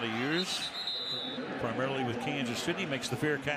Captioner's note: whistle